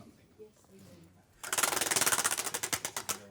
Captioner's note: ratcheting